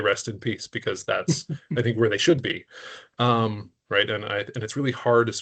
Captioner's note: chuckling